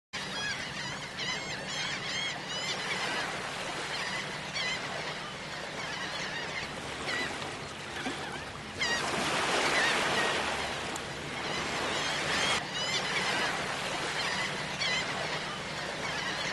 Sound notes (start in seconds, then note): 0.0 seagulls Cawing